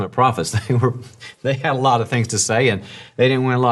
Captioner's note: laughs